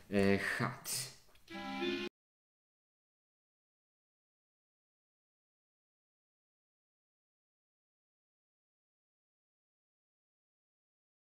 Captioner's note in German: Musik stumm gestellt